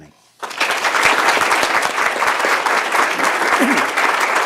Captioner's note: audience applauding